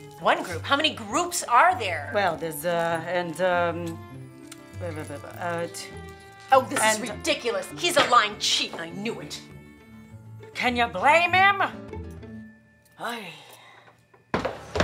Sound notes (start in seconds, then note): 4.8 stammers; 14.2 heels clacking